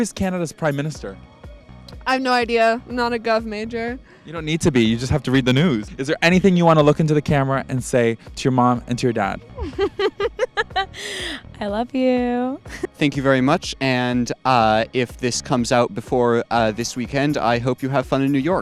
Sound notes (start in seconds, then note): 9.5 laughs